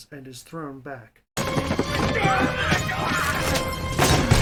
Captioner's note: panicked, pain and struggling noises